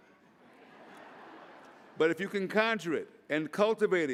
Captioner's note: laughter